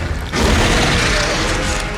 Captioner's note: creature roaring